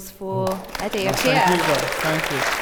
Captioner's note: audience applauds